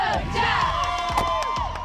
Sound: cheering

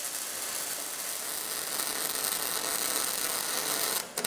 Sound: crackling and hissing

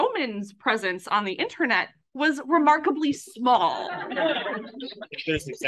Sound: laughs

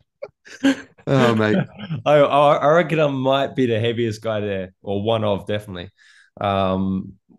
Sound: laughter

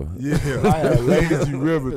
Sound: laughing

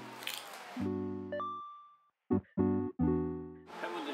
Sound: crunchy

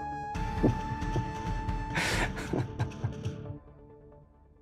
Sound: laughing

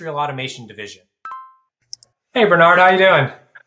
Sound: screen chimes

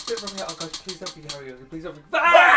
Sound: roulette spinning; screams and laughs

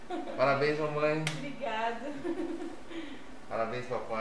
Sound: laughs

